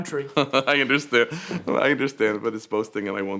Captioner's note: laughing; laughs